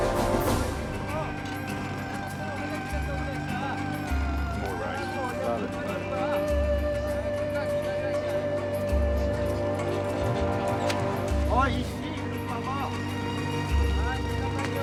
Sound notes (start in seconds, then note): 0.0 jackhammer Hammering; 0.6 people Chattering In Korean; 7.7 chattering Continues